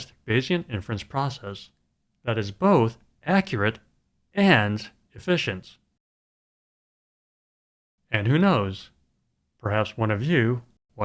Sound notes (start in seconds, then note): none